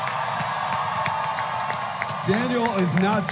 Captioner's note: applause